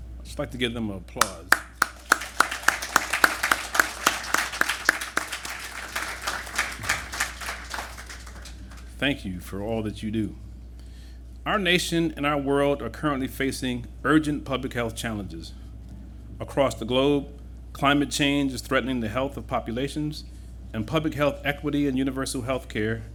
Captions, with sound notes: I’d just like to give them applause. [applause] Thank you for all that you do. Our nation and our world are currently facing urgent public health challenges. Across the globe, climate change is threatening the health of populations. And public health equity and universal health care